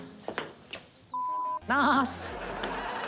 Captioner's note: laughter